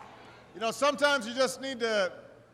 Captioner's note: applause